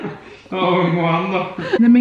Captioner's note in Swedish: båda skrattar